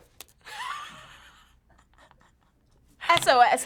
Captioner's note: giggling